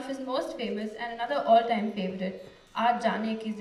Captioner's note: non-english speech